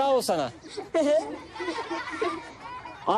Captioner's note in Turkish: Çocuklar gülüyor